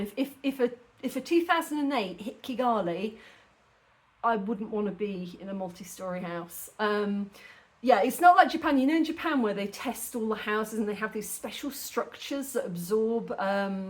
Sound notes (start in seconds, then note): none